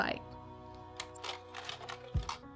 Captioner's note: projector clicks